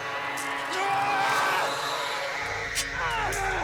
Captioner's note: Sogomo and Naga grunting